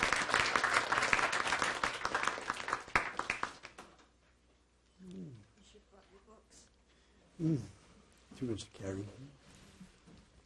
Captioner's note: applause